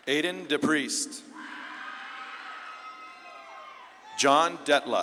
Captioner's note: audience claps and cheers